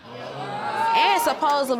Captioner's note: audience groaning